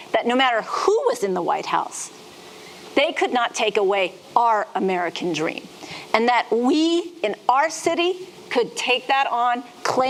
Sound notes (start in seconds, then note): none